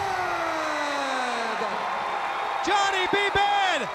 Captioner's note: crowd cheering